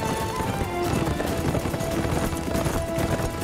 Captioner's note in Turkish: At nalı sesleri